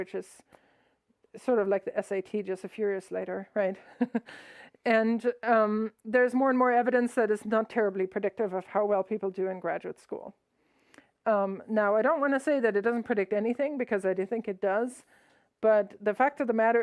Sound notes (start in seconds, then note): 3.9 laughs